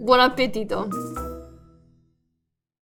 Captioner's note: logo chiming